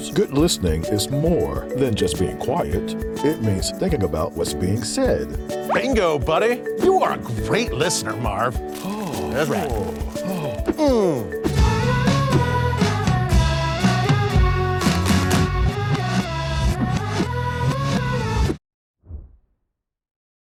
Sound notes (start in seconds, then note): 8.6 fingers scratching; 11.5 children singing